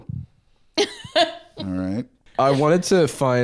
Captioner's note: laughs